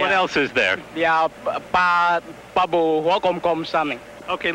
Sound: speaks in foreign language

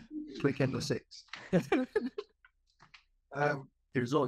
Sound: laughing

